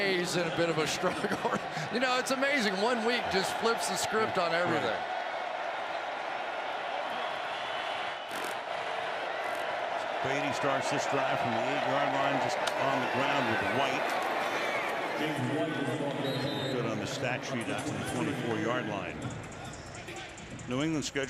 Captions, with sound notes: Green Bay's in a bit of a struggle. [laughs] It's amazing. One week just flips the script on everything. Brady starts this drive from the 8-yard line. Just on the ground with White. [whistle] Good on the stat sheet after the 24-yard yard line.